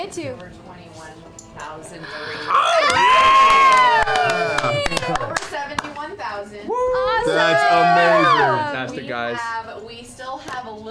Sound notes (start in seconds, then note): 2.4 cheering